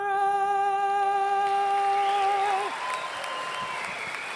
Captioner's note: applause